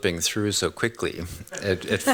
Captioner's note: laughs